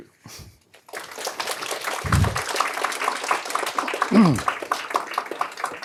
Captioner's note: audience applause